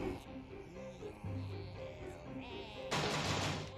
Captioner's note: zombies chanting